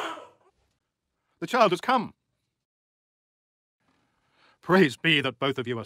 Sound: baby cry

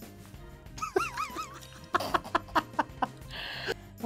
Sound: laughs

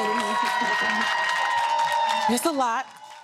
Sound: cheering

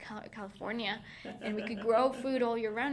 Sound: laughing

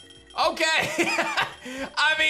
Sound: laughs

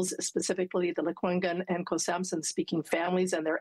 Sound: elle parle en langue autochtone

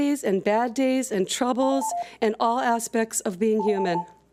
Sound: timer beeps

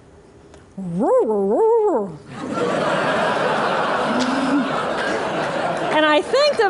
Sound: laughter

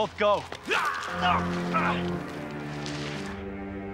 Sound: non-english speech

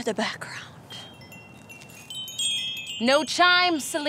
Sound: windchimes play

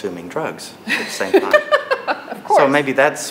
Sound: laughs

